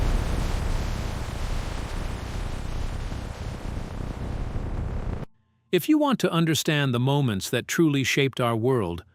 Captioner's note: explosion